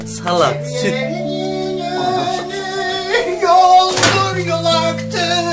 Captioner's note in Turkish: Şarkı mırıldanır